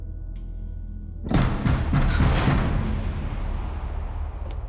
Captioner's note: banging on door